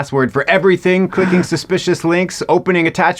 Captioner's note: attendee gasps